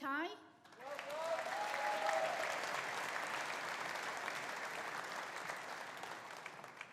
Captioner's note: audience applauding; audience cheering